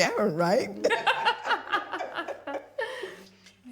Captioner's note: laughing